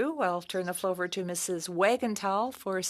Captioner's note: speaking French